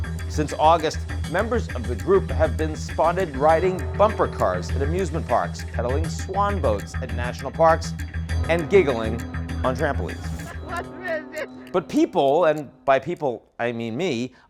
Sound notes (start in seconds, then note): 10.4 man laughs